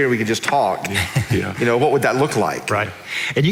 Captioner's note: laughing